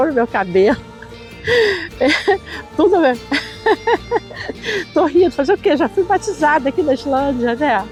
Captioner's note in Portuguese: risos